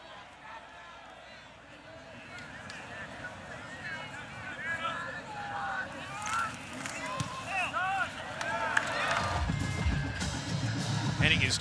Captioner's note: cheering